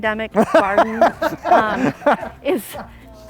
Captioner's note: laughs